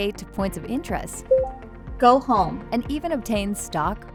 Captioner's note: VR System beeps